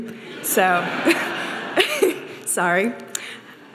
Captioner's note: audience laughing